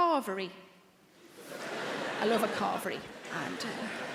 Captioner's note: audience laughing